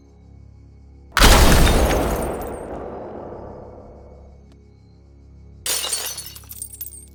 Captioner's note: gun fires; glass shattering